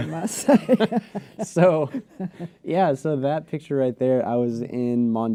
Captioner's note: laughter